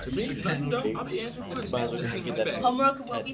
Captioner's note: students murmur